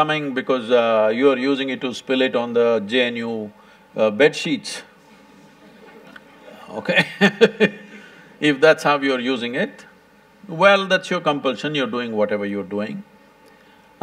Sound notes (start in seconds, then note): 6.8 few laugh; 6.8 laughs